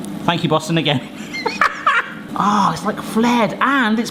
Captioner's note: laughs